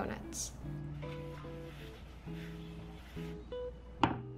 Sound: rubbing

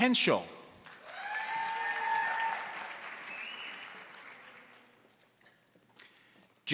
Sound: crowd applauding; crowd cheering

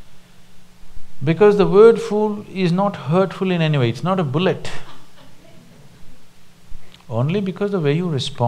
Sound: few laugh

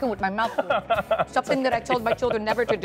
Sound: laughter

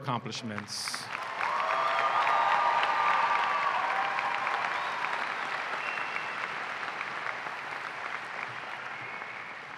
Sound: applause and cheering

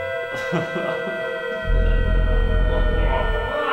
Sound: laugh; eerie electronic music

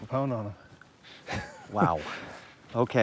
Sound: laughs

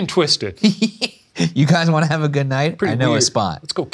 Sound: laughing

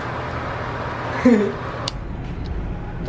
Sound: ugly laugh

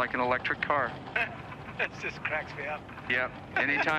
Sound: laughing

